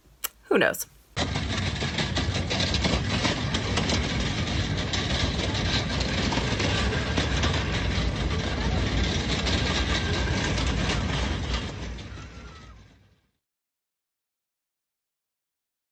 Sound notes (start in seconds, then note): 1.3 audio: casters rolling on brick and boardwalk